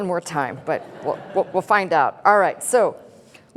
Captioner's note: laughter